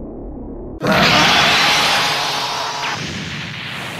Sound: TRUNKS screams

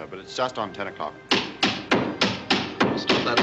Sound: banging

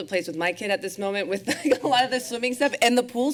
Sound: laughter

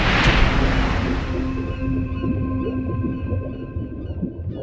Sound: water burbling

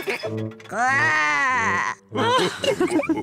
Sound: laughs; growls; all laugh

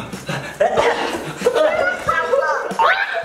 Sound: panting; laughing

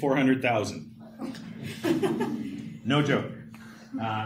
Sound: laughter

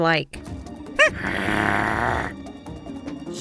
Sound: Henry growls

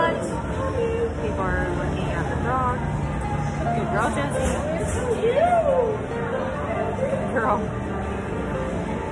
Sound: People talking to Josie in the Background

